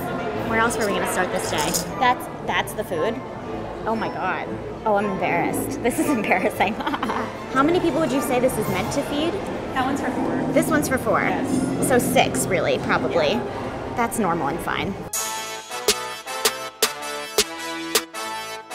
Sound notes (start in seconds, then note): 5.8 laughs; 15.1 upbeat techno music